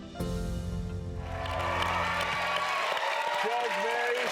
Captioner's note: applause